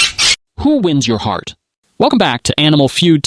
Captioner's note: squawk